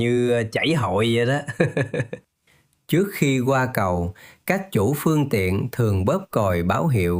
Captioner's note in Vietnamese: tiếng cười